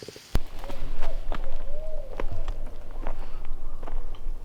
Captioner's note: animals hooting